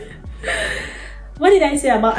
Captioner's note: deep breath